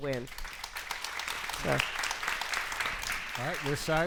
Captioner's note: audience applauds